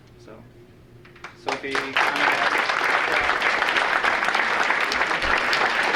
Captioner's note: audience applauding